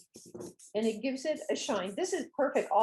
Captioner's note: spray sound